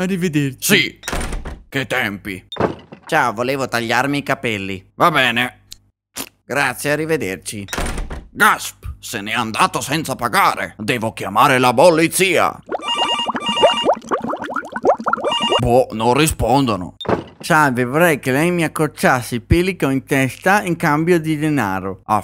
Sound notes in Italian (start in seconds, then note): 12.8 squillo di telefono